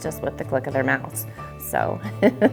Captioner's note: laughs